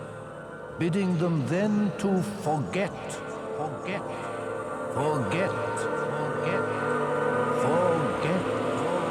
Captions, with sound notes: Bidding them then to forget. [echoes "forget"]